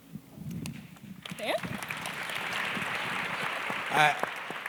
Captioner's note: audience clapping